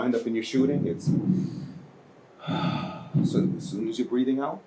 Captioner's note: inhaling and exhaling